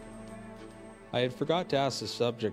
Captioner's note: voiceover